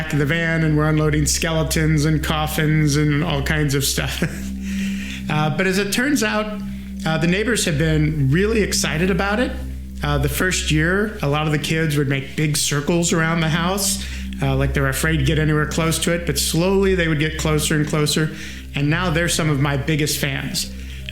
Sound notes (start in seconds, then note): 4.0 chuckles